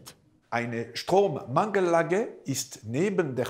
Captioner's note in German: Französischer Akzent